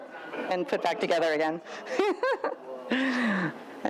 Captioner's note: laughs